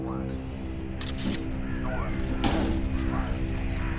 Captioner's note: camera clicks